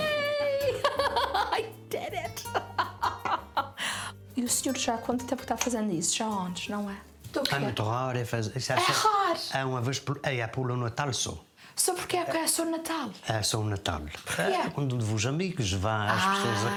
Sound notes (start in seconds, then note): 0.6 both laughing; 4.4 laughs